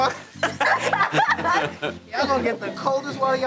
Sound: laughing

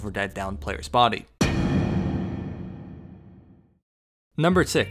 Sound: thud

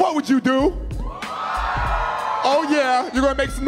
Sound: audience cheering

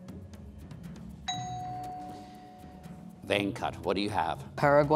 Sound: bell dings

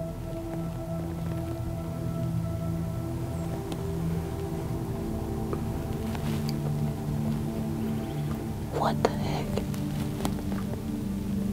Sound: whispering

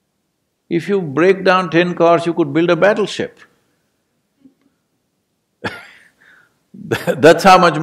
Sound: laughs

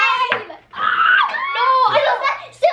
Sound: screams

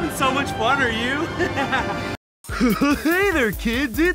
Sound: laughs; upbeat music

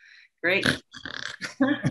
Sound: snore noise

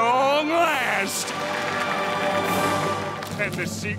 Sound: applauding

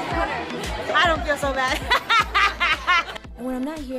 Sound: laughs

